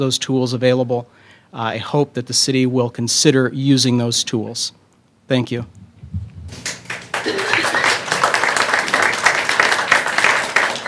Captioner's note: applause